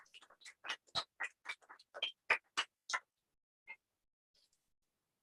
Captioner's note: applause